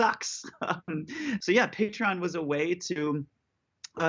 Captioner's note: laughter